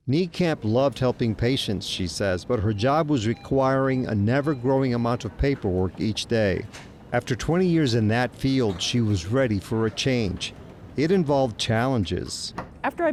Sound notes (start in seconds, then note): 3.5 controls beeping; 12.2 door clicking